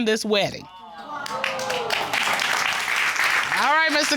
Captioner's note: applause